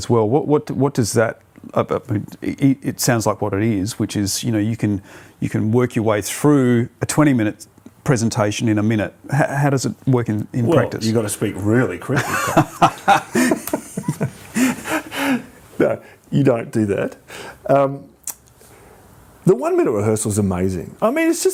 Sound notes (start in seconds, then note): 14.7 laughs